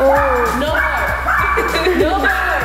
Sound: laughing

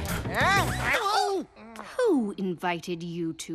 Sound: panting

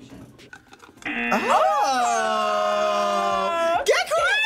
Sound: buzzer

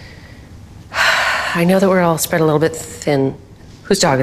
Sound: sighs

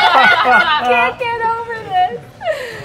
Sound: players laughing

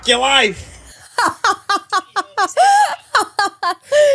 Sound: laughs

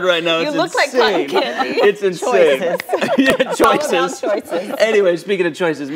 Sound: laughter

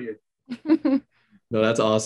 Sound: chuckles

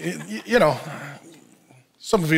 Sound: congregation laughs

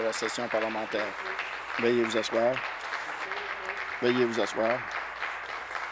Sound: applause

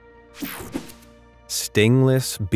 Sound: picture whooshing

